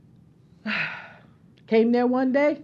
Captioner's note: sigh